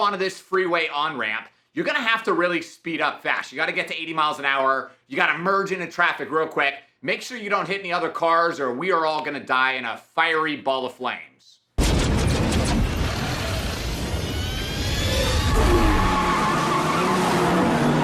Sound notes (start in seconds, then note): 12.2 car engine whirring; 15.6 car tires screeching